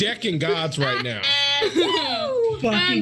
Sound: group laughs

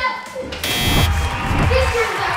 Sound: buzzer

